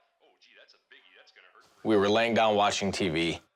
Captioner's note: TV in background